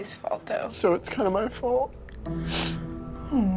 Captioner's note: sniffling